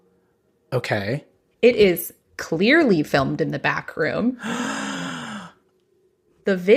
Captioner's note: gasps